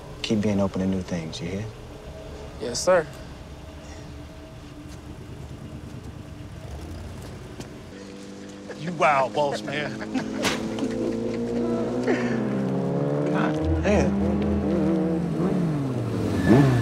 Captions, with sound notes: Keep being open to new things, you hear? - Yes, Sir. - Yeah. - You wild, boss man. (Reggie laughing) (engine revving) Goddamn.